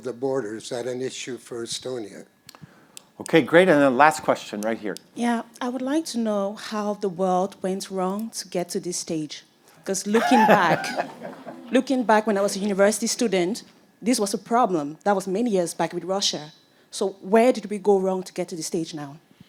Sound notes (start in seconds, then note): 10.1 all laugh